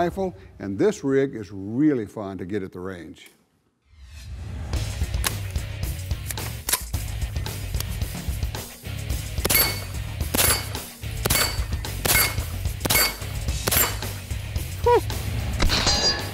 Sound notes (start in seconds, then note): 5.0 metal music; 9.6 gunfire